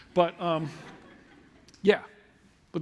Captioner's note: laughter